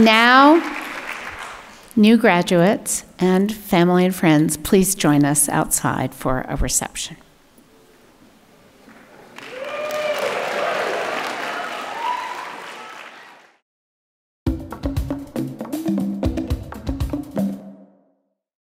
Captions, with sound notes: And now, new graduates and family and friends please join us outside for a reception. (audience clapping) (upbeat music)